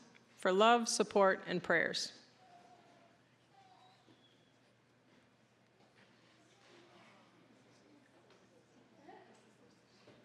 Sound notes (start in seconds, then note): none